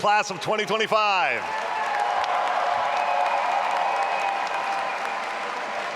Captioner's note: all applauding and cheering